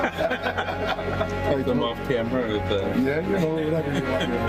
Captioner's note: laughter; laughter